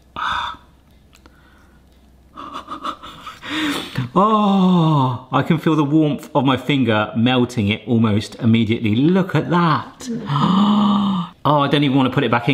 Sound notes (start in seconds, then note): 0.3 gasps attentively; 2.3 chuckling softly; 10.2 gasps in awe